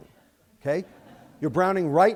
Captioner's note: laughter